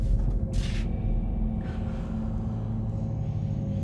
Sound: deep breathing

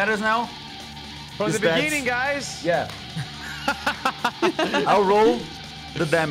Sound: laughs

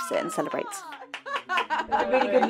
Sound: cheers and laughter

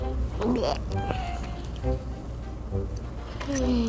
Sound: gags

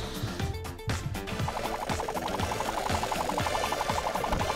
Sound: propellor whirring

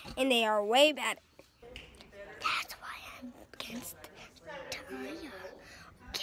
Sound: whispering

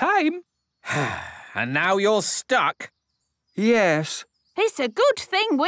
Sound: sigh

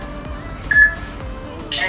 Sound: peep

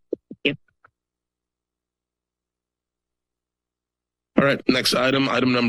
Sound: silence

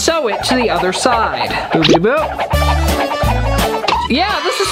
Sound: fast moving sound effect

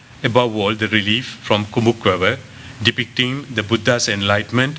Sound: non-english

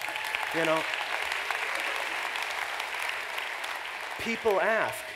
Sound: applause

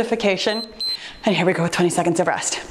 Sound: timer beeps

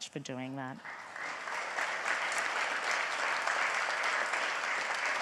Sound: audience applauds

